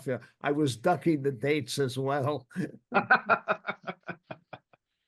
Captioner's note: laughs